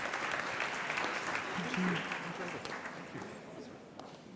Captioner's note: applause